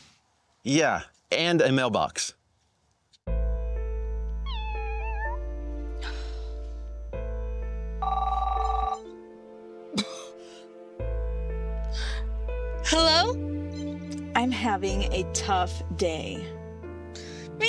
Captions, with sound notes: Yeah. And a mailbox. [sad music] [cat's meow] [phone rings] [coughing] Hello? I'm having a tough day.